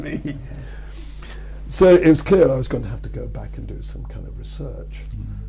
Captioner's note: laughs